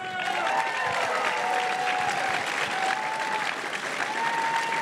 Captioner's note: crowd cheering and applauding